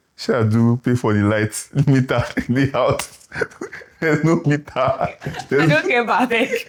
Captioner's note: laughs